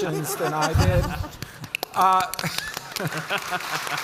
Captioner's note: panelists applauding; audience applauding